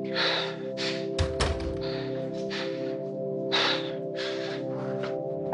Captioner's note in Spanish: Exhalaciones frecuentes de él